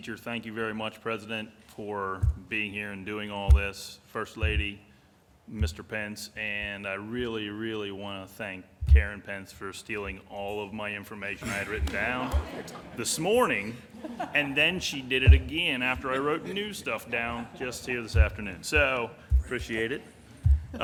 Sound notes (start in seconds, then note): 18.5 laughter